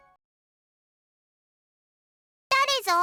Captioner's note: silence